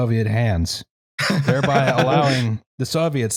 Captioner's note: laughs